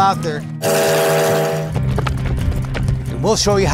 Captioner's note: train whistle blows